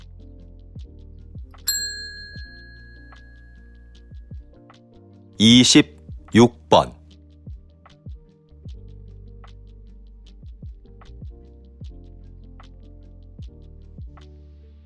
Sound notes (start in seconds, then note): 5.3 Korean audio